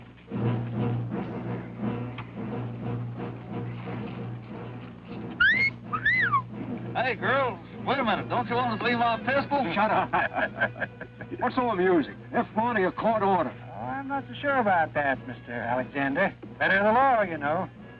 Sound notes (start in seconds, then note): 0.2 dramatic music; 5.3 cop whistles; 9.7 sheriff laughing